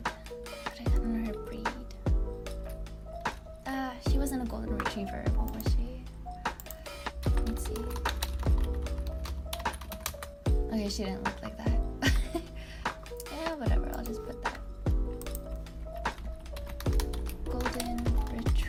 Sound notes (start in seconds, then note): 12.1 laughs